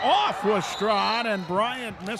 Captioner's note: referee whistling